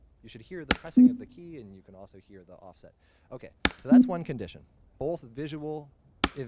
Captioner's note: click then beep; click then beep